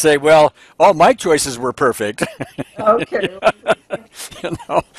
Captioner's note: laughing